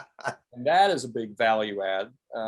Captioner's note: chuckling